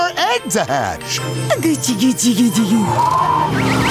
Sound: cooing

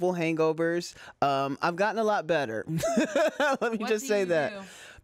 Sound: laughs

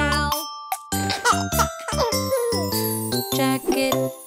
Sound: chuckling

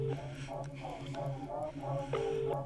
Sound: whispers

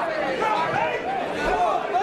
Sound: crowd talking excitedly

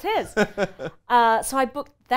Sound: laughs loudly

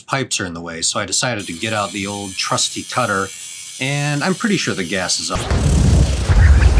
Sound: explosion

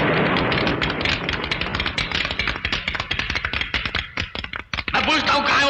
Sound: running Footsteps

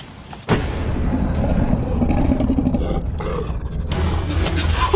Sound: roaring and grunting; dramatic music

